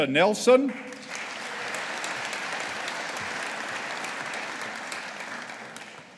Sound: audience applauding

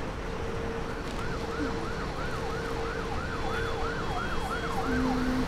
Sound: emergency vehicle siren ringing; Eve humming

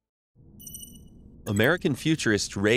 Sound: futuristic melodious beeps

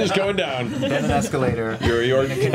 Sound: laughs

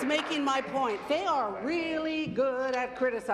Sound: applause

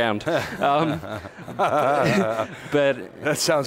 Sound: laughing

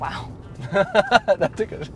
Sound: laughing

